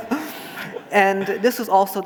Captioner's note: laughing